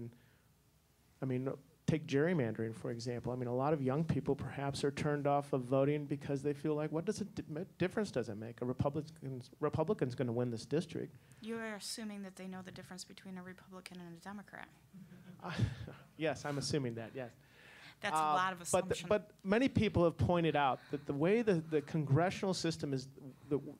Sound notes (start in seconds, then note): 15.3 audience laughing